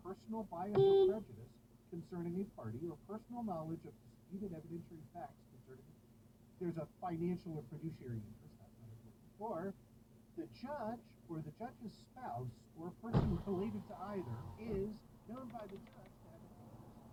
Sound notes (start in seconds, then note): 0.7 beeep